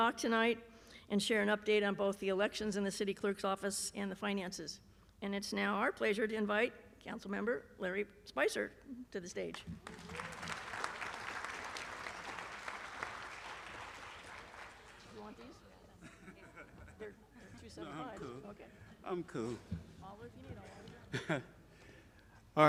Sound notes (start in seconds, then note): 13.9 applause